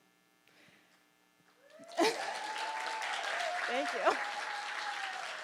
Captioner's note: audience applauding